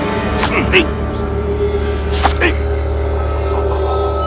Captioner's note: grunting